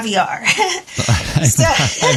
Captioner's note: laugh